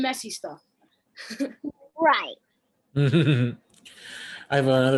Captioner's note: chuckles